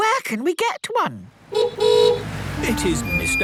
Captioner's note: horn honking